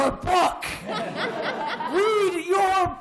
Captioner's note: laughter